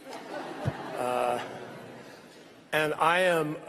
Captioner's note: laughter